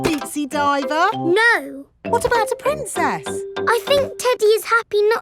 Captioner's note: none